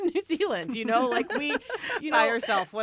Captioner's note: laughter